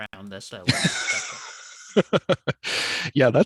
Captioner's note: chuckles